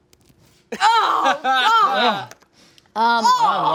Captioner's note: laughs